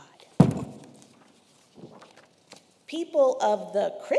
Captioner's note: wood thuds; paper rustling